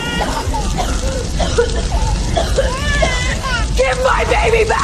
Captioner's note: coughing